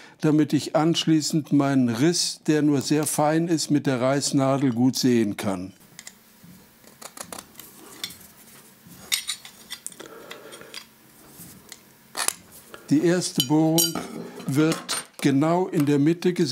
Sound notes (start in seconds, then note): 7.1 scratching, then metallic noise